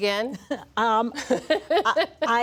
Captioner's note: laughter